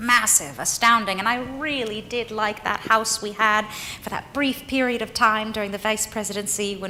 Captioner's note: none